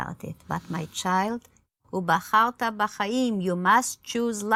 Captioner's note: speaks in foreign language